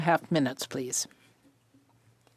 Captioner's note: speaking French